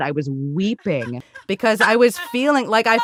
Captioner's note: laughing